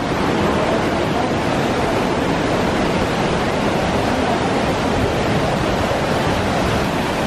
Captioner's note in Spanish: sonido ambiente de la cascada y del río